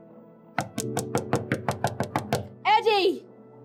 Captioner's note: knocking